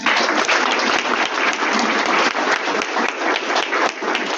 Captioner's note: audience Clapping